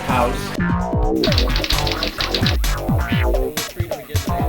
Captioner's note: typing